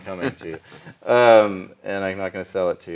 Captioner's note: laughs